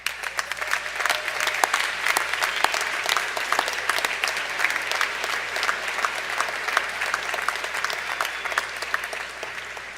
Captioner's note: applause